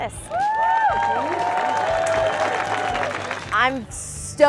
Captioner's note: cheering